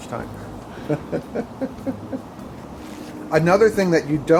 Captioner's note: laughs